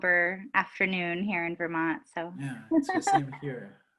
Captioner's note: laughs